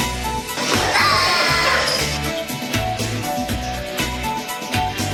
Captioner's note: shouting